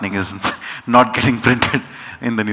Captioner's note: chuckles